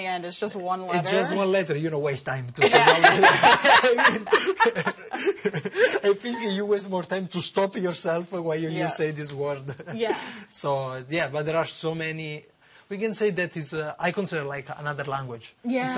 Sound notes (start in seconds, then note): 9.7 laughter